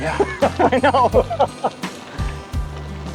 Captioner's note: laughing